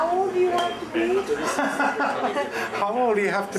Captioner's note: chuckles